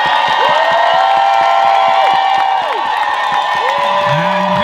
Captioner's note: crowd cheering